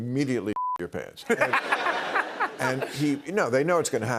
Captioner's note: laughter